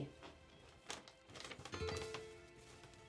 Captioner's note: unfolding letter